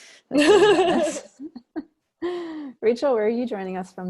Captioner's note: laughing